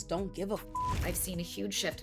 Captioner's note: beep